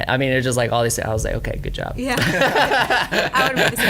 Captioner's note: laughs